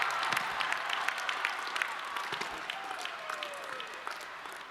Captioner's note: audience cheering; audience clapping